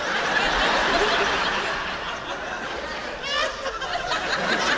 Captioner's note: laughter